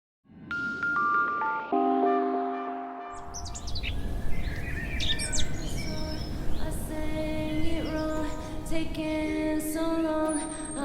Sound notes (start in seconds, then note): 0.7 gentle new age music; 3.1 birds chirping